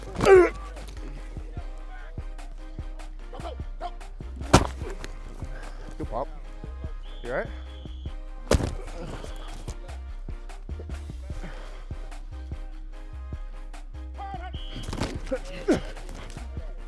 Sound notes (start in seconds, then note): 4.4 thud; 8.5 thud; 14.4 whistle blows